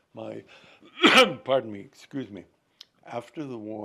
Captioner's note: coughing